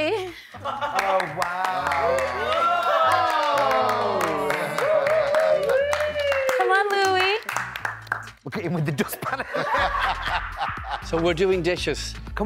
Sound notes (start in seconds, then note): 0.9 cheering and clapping; 0.9 clapping; 8.6 laughing